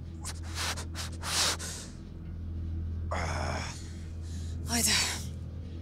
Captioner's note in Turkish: İnleme sesi